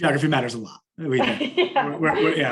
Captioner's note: laughs